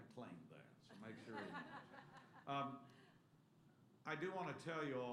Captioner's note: laughter